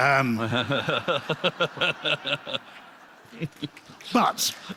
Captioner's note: laughter